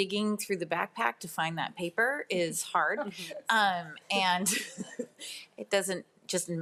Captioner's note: laughs